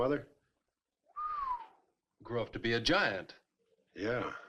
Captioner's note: whistles